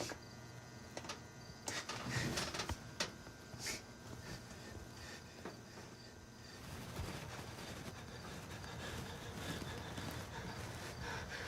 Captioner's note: GUARD takes shallow breaths